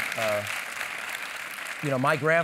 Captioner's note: applause